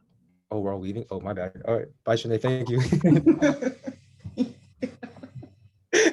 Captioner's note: laughing